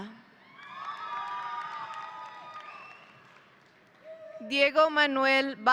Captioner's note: audience applauding